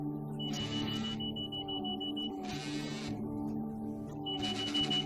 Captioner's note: phone alarm ringing and vibrating loudly